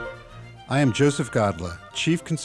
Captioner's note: classical music; voiceover